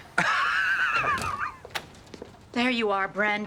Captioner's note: laughing